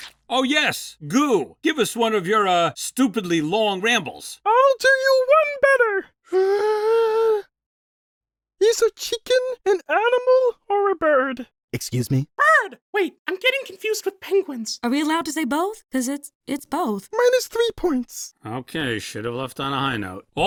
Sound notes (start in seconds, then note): 6.3 inhale